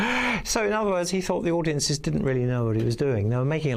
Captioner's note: laughing